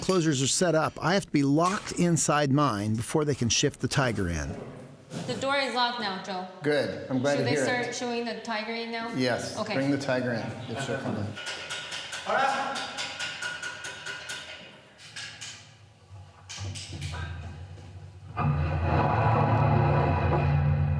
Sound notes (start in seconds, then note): 10.6 rattling; 11.7 man speaking